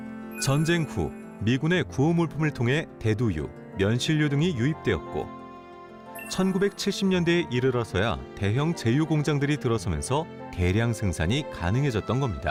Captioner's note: voiceover